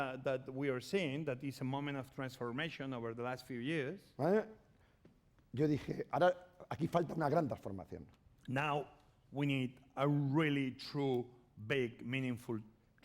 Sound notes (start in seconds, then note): 5.1 speaking spanish